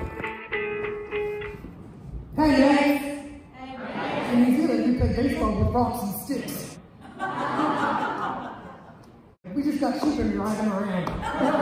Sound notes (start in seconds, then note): 6.9 laughter